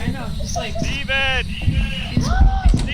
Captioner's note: gasps